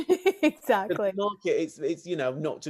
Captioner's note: laughs